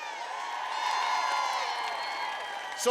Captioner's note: applause